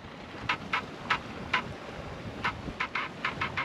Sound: squeaking sounds

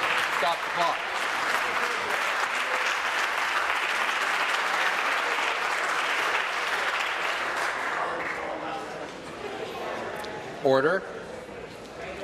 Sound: applause

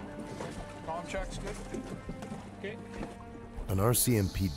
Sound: voiceover

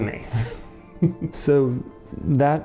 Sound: chuckles

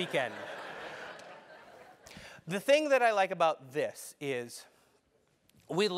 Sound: laugh

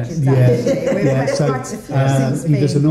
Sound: light laughter

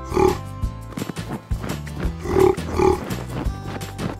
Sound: gorilla sound

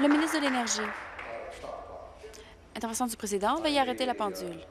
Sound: applause

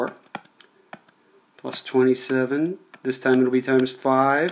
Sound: keys tapping

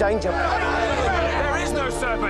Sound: crowd roaring

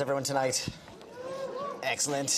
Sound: audience cheers

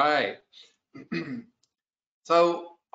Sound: clears throat

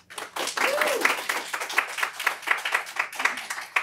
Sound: applause

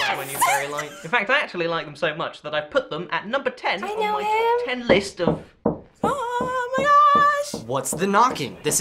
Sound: knocking on the door

